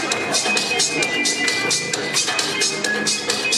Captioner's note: none